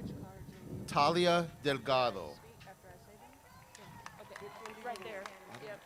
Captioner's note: crowd cheers